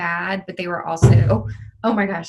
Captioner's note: bird banging